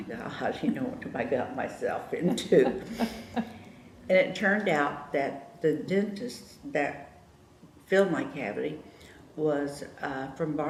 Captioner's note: laughter